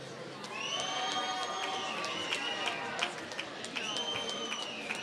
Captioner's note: applause